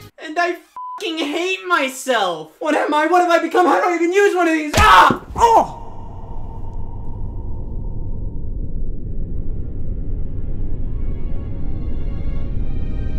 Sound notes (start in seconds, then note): 0.8 beep; 4.8 grunts; 9.4 dramatic orchestral music